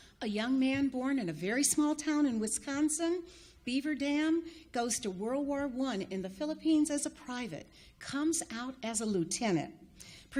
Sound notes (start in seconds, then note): none